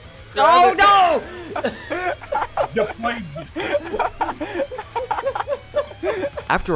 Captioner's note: everybody laughing